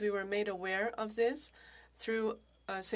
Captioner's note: speaking French